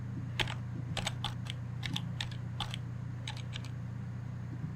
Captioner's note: phone keys clack